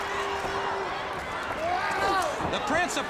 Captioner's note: crowd cheering